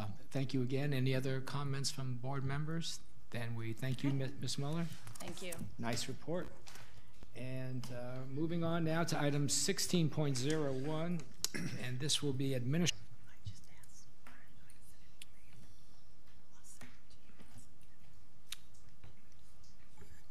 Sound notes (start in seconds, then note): 12.7 woman whispering